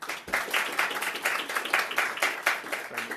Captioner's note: attendees applauding